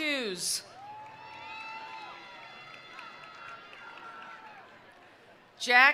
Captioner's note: attendees cheering; attendees applauding